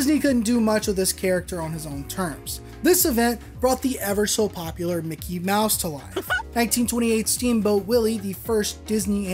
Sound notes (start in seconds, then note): 6.1 Mickey Mouse laugh